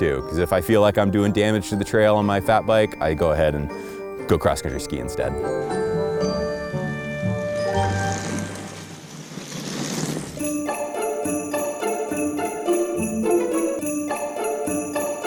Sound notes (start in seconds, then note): 5.5 gentle music; 7.2 bikes whirring; 8.0 gentle music